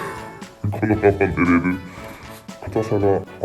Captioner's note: laughs